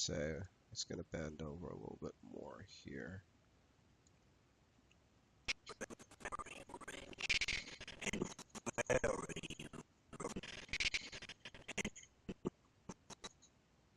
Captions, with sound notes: And I'm going to say, he's going to bend over a little bit more here. (audio skipping)